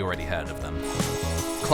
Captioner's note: slurp